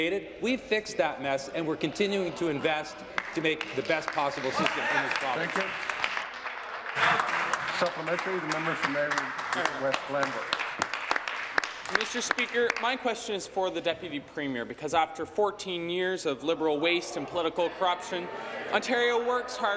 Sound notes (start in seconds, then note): 9.6 applause